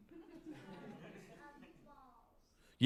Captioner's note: laughter